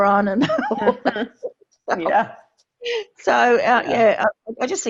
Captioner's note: laughter